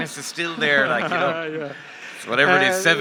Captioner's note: laughs